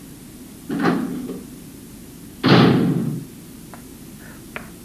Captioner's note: clocktower Rooftop Door Closes